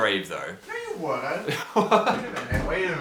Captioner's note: laughs